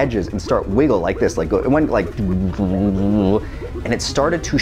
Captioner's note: mouth noises